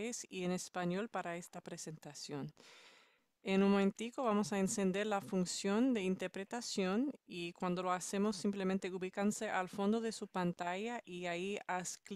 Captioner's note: speaking Spanish